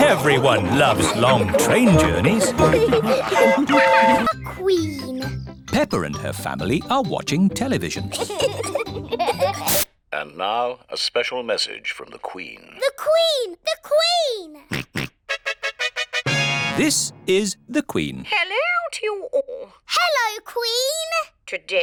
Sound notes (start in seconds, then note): 3.3 train whistle toots; 8.1 both giggling; 14.7 snorts; 15.2 trumpet fanfare on tv